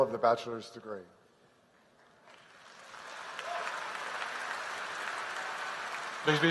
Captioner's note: applause